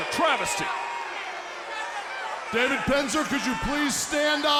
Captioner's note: crowd chatter